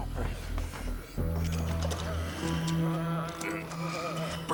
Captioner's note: doorknob Rattling